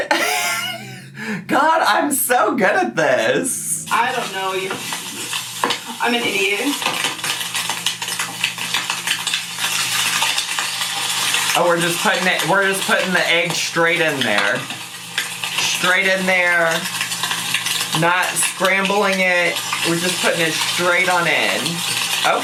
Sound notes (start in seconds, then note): 0.0 laughs; 7.0 meat sizzling